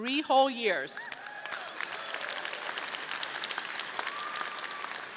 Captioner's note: audience cheering